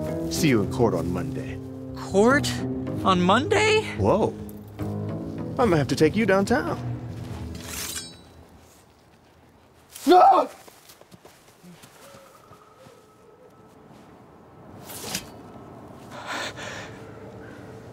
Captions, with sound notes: See you in court on Monday. Court? On Monday?! Whoa. I might have to take you downtown! *sword unsheathes* *Meinhof screams*